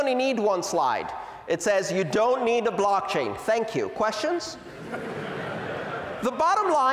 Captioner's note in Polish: Śmiech